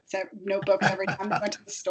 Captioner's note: laughing